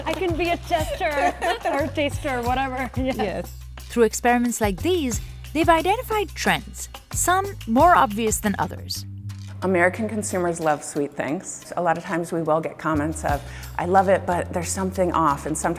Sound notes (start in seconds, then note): 3.5 laughs